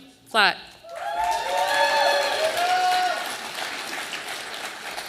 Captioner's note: audience applauding